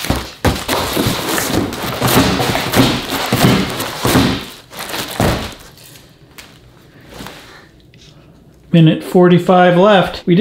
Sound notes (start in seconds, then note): 2.0 smashing cardboard boxes